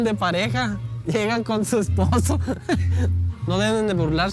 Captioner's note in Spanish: risa